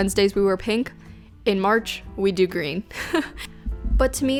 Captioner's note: chuckles